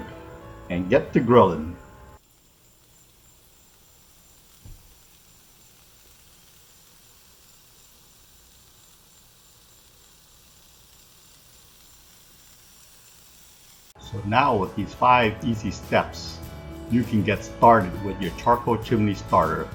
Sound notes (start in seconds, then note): 2.3 sizzle